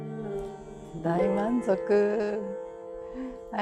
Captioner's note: speaking Japanese